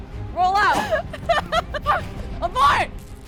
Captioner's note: laughter